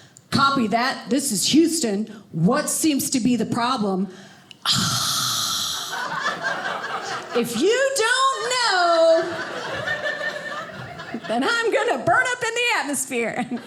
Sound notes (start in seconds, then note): 4.6 sighs; 5.9 audience laughing